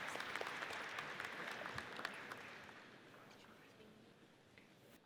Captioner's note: audience applauds